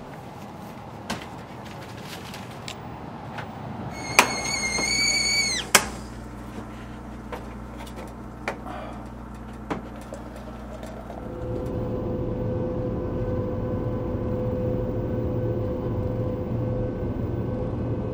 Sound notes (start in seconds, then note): 3.9 kettle whistling; 11.6 car engine hum